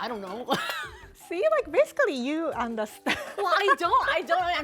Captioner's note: laughs; laughs